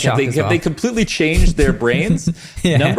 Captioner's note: laughs